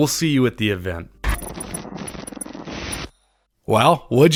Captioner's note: static sound